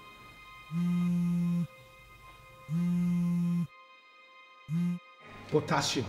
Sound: phone hums

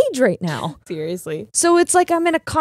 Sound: laughs

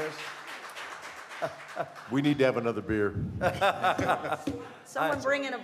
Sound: laughter

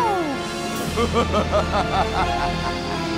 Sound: evil laugh

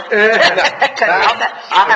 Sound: laughing

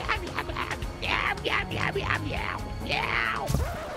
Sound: monster Noises Continues

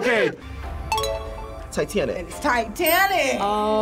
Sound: bell dings

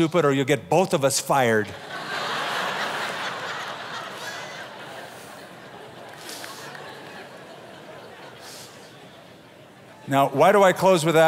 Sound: laughter

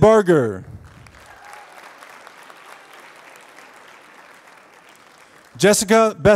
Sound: applause

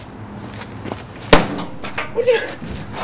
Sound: thud!

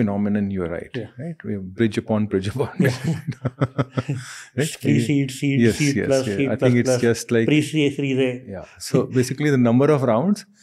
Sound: chuckles

